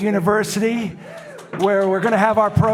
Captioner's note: audience applauding